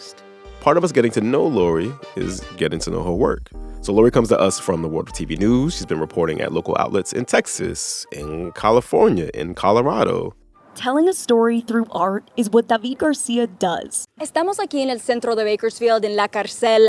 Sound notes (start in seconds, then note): 10.0 soundbite of montage; 13.9 speaking Spanish